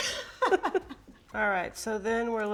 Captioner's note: both laughing